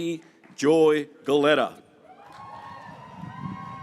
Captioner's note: graduates cheering